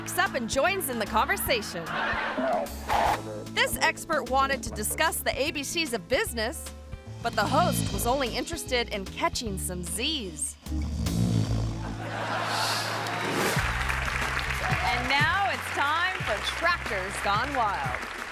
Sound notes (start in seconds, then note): 10.6 host snoring; 12.0 audience laughing and clapping